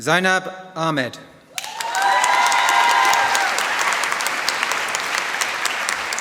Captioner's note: applause